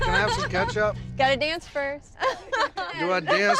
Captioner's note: laughter